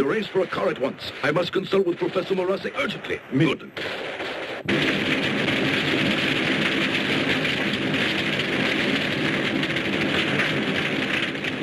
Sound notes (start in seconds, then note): 4.4 fire crackling